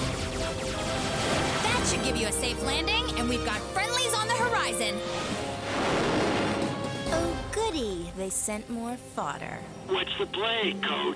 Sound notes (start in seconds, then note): 0.0 lasers fire rapidly; 7.0 jets roar